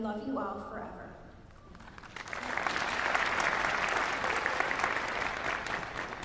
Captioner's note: applause